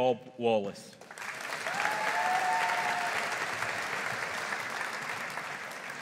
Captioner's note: audience applauding